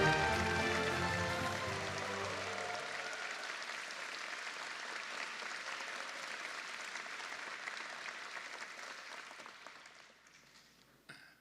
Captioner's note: applause